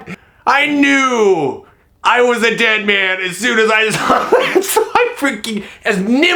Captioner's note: laughing; laughing